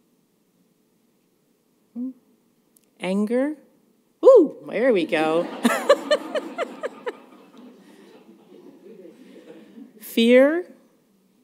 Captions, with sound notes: Anger? Oh, there we go. [laughter] Fear?